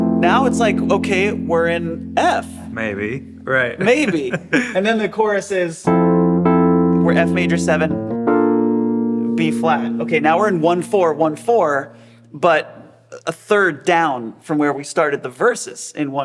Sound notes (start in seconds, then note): 3.6 laughs; 5.8 keyboard playing continues